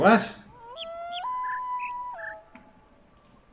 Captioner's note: bird chirps five notes; coyote howls ˩˧˥˥ ˧